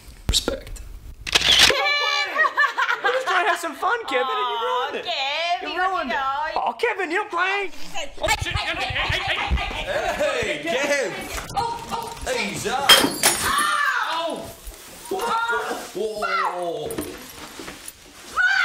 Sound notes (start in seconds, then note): 1.2 camera snapping; 1.6 all laughing; 11.4 woman screaming; 12.8 glass shattering